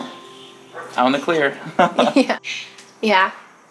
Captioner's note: laughs